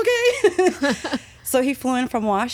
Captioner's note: laughing